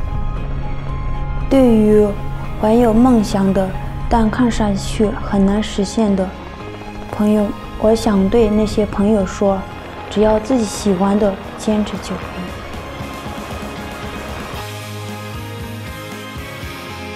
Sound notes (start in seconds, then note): 10.0 chopping sound of helicopter; 14.0 triumphant music